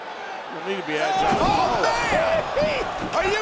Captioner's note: body thudding